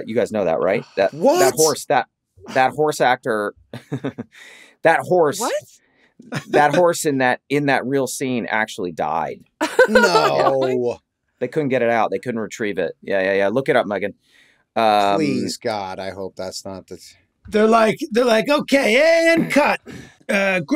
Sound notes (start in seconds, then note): 9.6 laughs